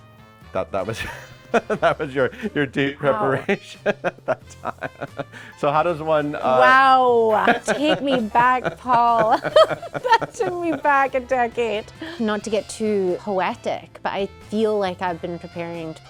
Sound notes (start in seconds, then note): 9.6 laughs